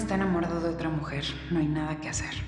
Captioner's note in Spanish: Voz de Regina